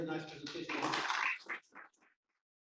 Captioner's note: applause